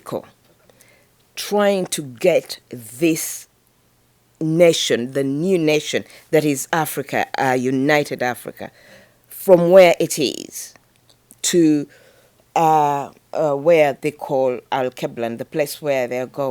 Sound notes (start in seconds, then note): none